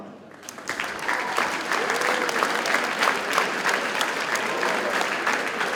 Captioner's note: audience cheers and applauds